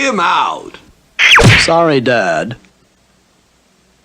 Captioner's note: smack!